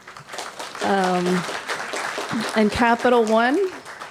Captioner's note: applause